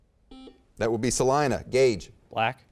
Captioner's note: beeping